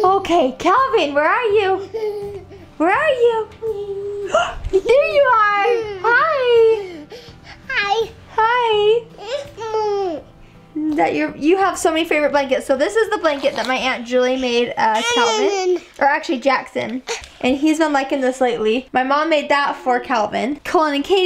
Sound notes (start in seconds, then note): 6.8 laughing